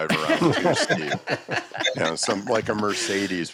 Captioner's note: laughter